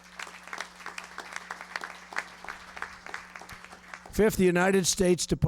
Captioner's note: applause